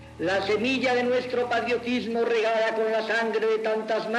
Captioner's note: speaking Spanish